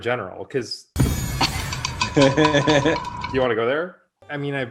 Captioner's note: shade sound effect